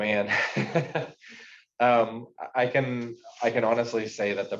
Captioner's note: chuckles